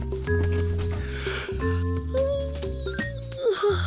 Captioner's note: yawning